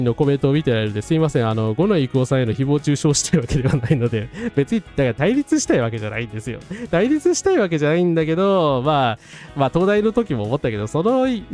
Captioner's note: laughs